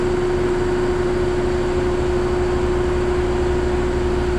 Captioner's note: air compressor whirring